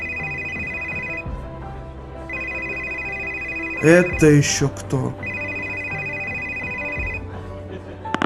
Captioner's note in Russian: Телефонный звонок